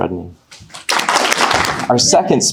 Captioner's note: audience applauding